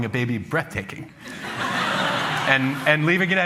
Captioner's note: laughter